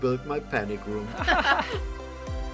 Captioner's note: laugh